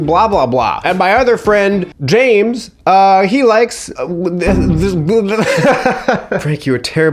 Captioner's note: laughs